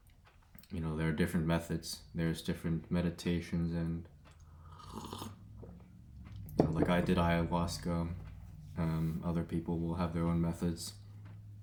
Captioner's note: slurp